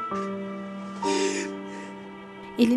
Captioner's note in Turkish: Ağlama sesi